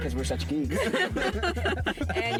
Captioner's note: laughing